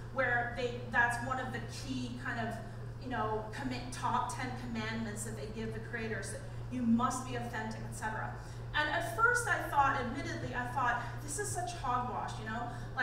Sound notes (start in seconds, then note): none